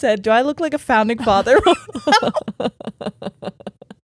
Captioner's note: laughing